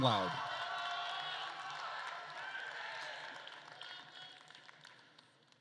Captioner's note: attendees cheering and applauding